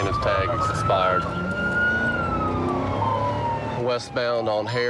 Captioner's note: siren